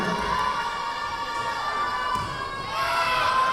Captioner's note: yelling